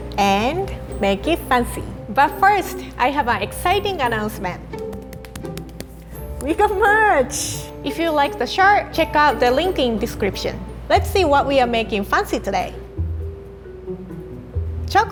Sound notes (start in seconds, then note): 4.7 hands tapping; 13.1 mischievous music